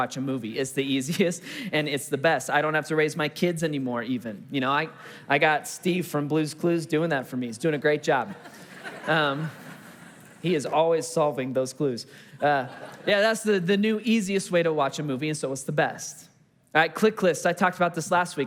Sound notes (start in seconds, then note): 8.2 congregation laughing